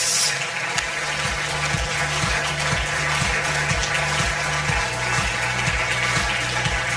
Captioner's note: audience applause; upbeat music